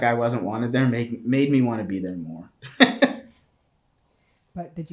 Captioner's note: laughs